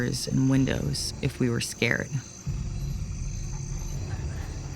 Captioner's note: crickets chirping